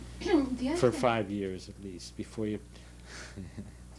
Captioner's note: laughter